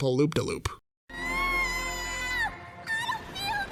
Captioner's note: screams